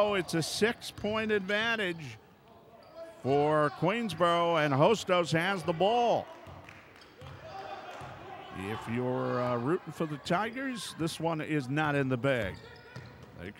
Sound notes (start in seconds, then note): 6.2 ball pounding; 6.2 yelling